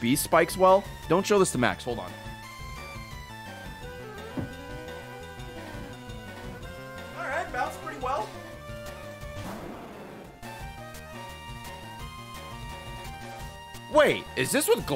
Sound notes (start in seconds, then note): 4.2 sad thud